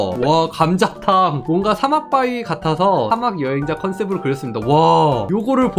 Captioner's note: voiceover